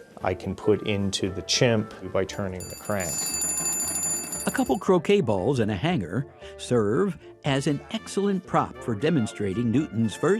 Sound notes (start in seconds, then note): 2.6 bell ringing